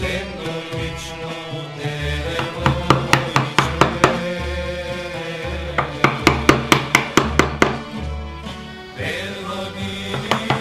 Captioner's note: woodcarving sounds